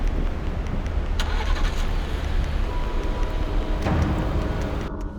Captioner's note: suspenseful music continues; engine starts; suspenseful music